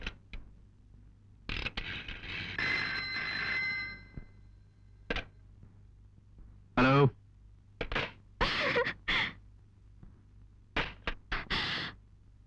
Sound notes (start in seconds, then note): 1.3 phone number dialing; 2.5 phone ringing; 8.5 laughs